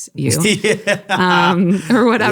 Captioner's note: laughing